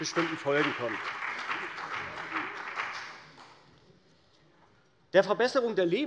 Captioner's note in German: Beifall bei der CDU und dem BÜNDNIS 90/DIE GRÜNEN